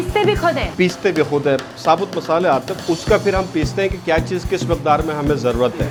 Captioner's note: people speak in foreign language